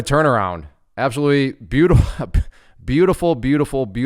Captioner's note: chuckles